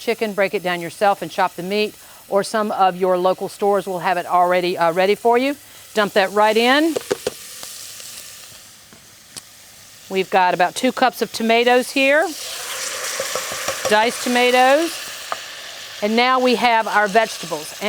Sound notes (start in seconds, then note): 6.6 rotisserie chicken sizzling